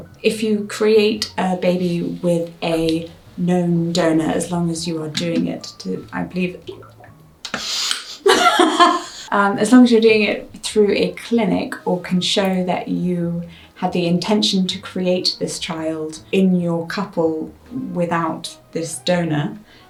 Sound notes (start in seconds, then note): 6.6 gulping; 7.6 both laugh